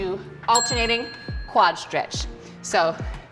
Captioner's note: bell rings